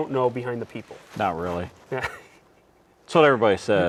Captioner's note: laughs